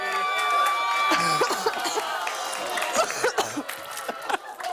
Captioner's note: cheers and applause; coughing